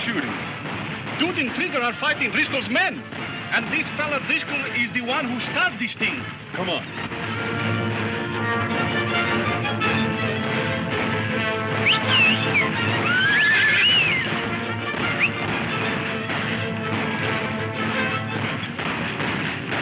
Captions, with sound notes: - What's all the shooting? - Dude and Trigger are fighting Driscoll's men. And this fellow Driscoll is the one who start this thing. - Come on. (upbeat dramatic music) (whistling) (horse whinnying) (upbeat dramatic music)